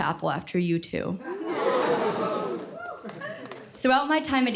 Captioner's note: cheers